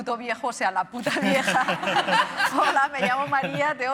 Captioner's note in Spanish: Risas